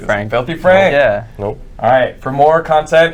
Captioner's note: deadpan